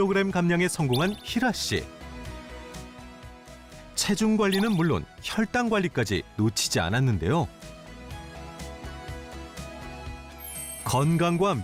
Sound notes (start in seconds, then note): 4.7 voiceover